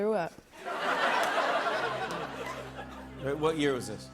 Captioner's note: laughter